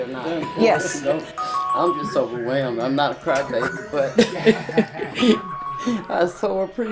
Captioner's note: laughs